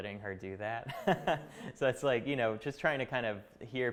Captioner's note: chuckling